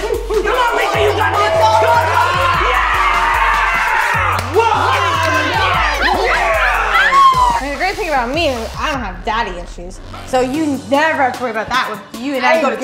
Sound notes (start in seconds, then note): 0.8 whooping; 5.3 all cheering